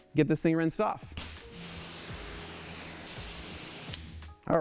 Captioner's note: water running